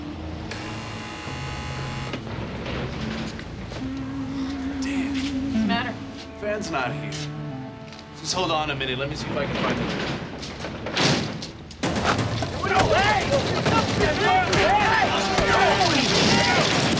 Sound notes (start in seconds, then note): 0.4 door buzzes; 11.8 elevator door thuds; 11.8 dramatic music; 14.2 men shouting